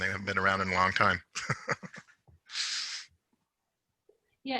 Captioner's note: chuckles